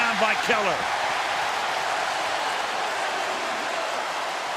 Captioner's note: cheering